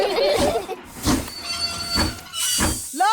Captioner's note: laugh; train chugs